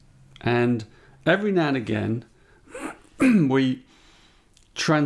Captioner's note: clears his throat